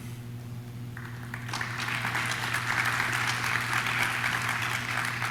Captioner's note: audience claps